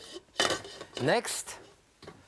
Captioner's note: lid clinking